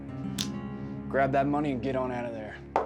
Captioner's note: throwing, catching toy train